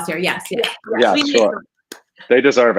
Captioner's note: clapping